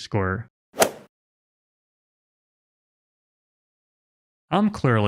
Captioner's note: golf ball hit sound effect